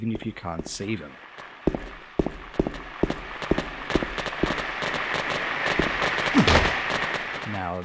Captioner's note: radio static that gets louder and more distorted